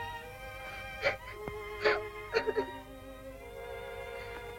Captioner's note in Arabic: يبكي